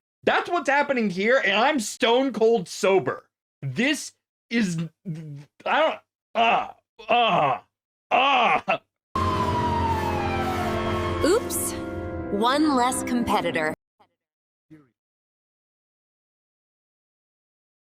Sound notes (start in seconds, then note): 6.3 groaning; 9.1 sirens